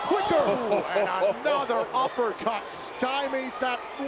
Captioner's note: laugh